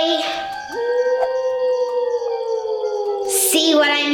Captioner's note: spooky howling